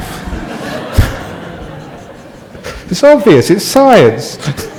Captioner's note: laughter